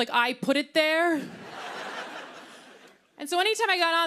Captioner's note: laughter